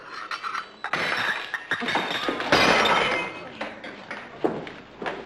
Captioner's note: cup shattering